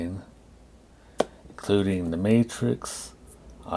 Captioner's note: claps